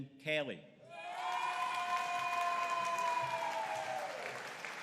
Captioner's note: audience cheering